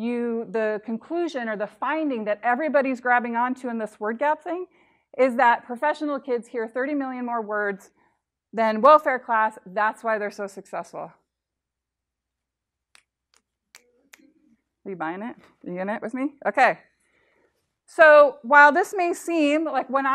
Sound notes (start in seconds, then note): 13.3 snapping